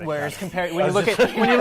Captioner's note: laughter